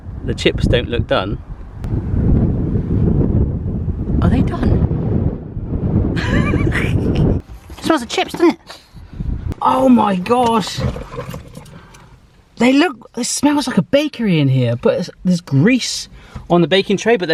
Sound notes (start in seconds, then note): 6.2 laughing